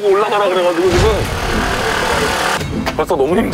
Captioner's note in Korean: 프르르릉